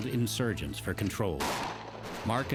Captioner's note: gunfire